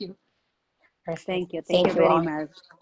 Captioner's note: internet echo